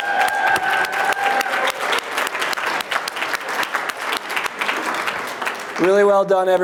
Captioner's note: applause